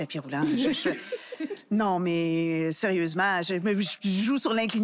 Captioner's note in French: rires